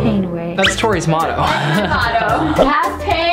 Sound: laughs

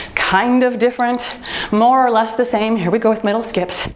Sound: timer beeps

